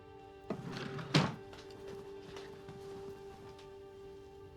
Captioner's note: drawer slams